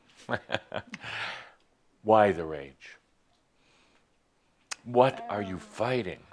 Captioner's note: Adamus chuckles